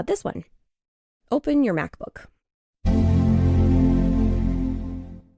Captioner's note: SFX- Apple start up sound